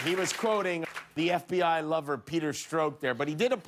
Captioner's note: applause